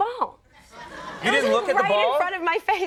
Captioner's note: audience laughs